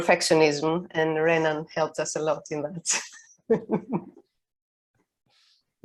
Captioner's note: laughs